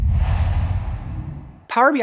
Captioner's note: logo swooshes